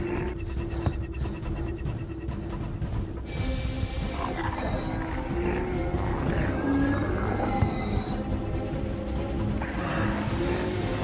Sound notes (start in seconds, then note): 0.0 zombies growling; 0.3 suspenseful music; 4.0 zombies growling